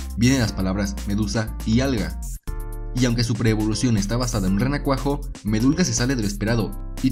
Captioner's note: in spanish